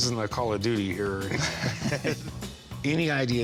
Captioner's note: both laughing